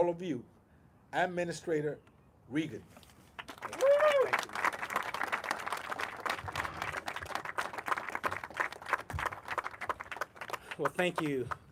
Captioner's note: applause